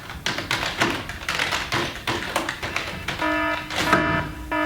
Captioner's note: alarm bell ringing